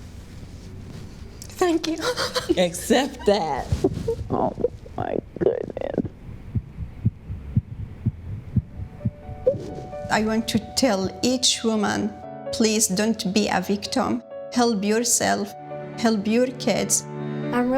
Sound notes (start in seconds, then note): 2.0 sobbing; 6.6 heart beating